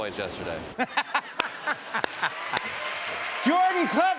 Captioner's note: audience laughs